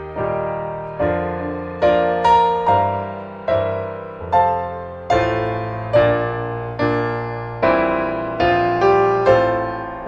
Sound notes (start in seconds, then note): none